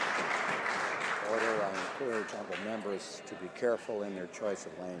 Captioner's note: some Applause